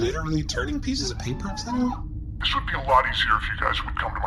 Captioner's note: distorted voice